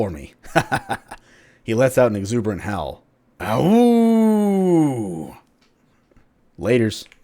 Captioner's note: he lets out an exuberant howl